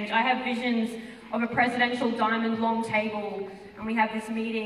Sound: none

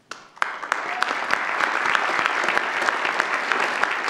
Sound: audience applauds

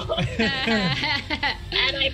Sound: group laughs

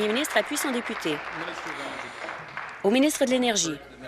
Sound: applause

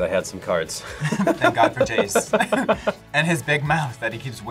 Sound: both laugh

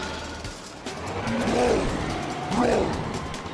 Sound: roaring

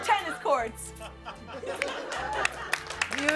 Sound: laughter and applause

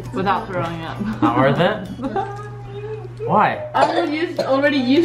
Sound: laughs

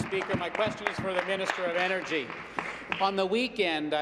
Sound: applause

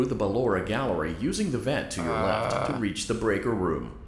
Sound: groans

